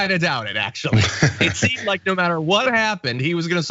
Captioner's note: laugh